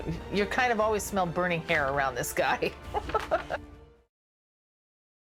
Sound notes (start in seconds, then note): 2.8 chuckles